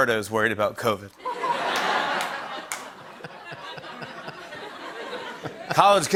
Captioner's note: laughter